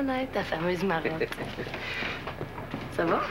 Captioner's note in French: Rire